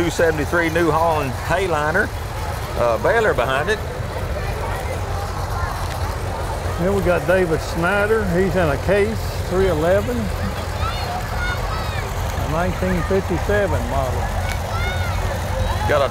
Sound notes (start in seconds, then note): 4.8 revving continues; 11.4 children chatter